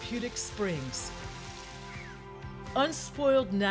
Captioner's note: cascading waters